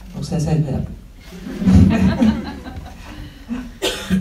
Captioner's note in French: rires